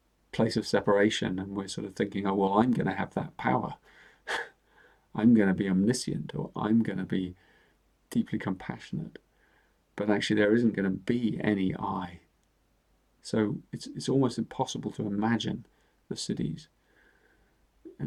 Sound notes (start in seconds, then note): 4.3 chuckles